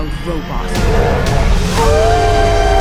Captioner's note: Thorn roaring; Roz howling